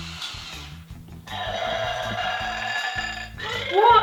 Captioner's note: burps